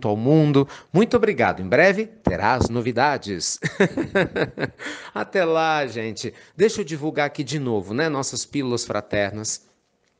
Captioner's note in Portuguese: Risos